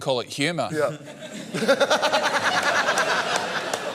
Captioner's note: laughs